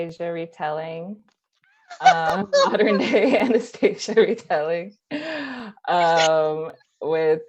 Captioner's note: happy cackle